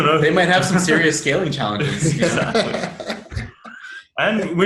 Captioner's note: laughs